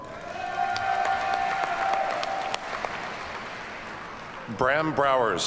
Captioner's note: audience cheers and applauds